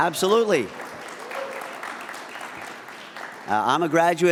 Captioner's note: audience applauds